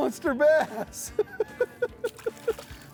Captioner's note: laughing